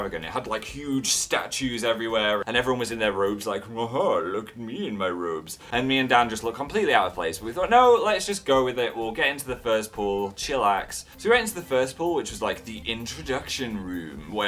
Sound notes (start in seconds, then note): 3.7 rich spa person voice; 5.7 normal voice